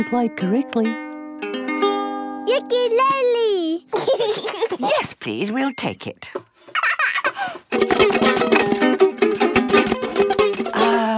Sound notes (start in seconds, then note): 1.9 gentle strumming; 3.9 giggling; 6.7 giggles; 7.6 vigorous, unpleasant strumming